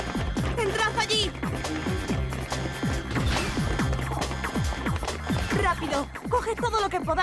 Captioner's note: alarm buzzing